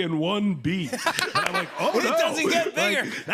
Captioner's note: laughter